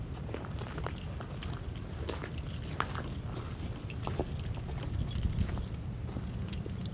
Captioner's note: footsteps on shell